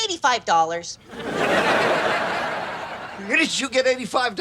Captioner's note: audience laughs